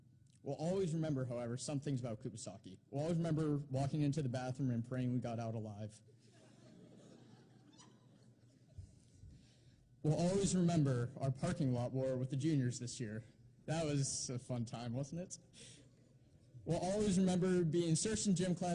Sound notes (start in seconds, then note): 6.2 laughter